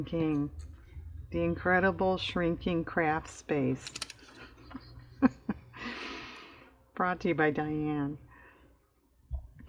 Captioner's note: laughs